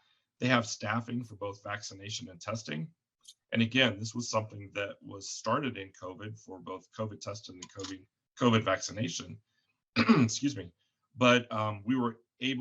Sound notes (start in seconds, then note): 10.0 coughs